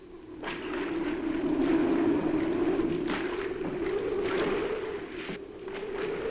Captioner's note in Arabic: عواء الرياح